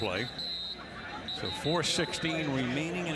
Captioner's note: whistle